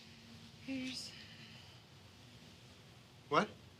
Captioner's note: quietly